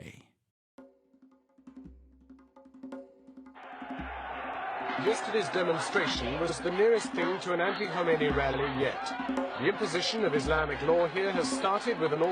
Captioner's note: soundbite of archived recording